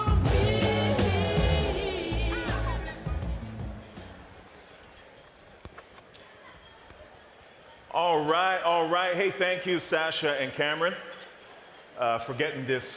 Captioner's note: cheering and applause